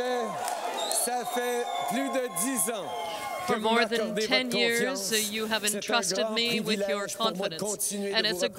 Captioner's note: chanting justin